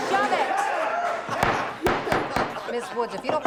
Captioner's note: judge bangs gavel